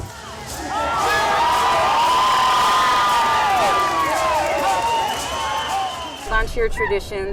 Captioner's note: bird Songs with Crowd Sounds